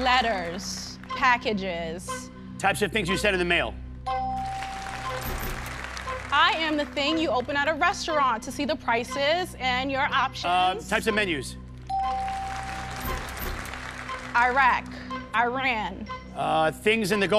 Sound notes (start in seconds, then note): 4.1 bell dings; 11.9 bell dings